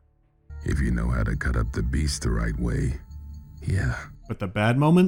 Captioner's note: the actor speaks with deep, confident voice